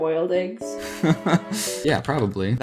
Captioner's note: laughs